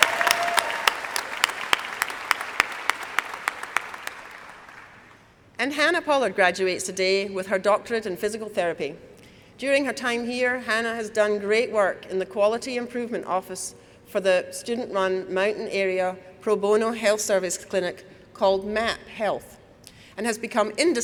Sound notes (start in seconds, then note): 4.7 applause